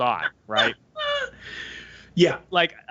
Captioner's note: laughs